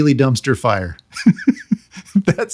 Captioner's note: laughing